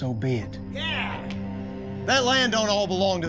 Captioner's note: men cheering